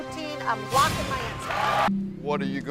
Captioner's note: crowd cheers